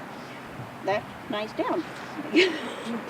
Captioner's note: chuckles